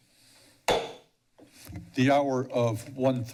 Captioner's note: mic tap; gavel tap